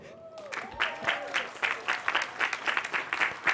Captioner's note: applause